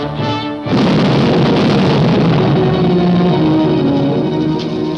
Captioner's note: explosion booms